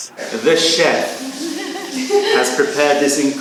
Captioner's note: laughter